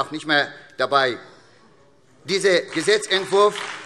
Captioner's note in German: Beifall SPD, DIE LINKE und Freie Demokraten